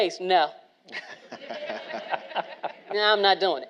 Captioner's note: all laughing